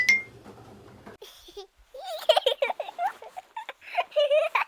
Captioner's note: baby laughing